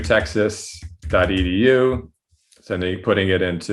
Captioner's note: fast typing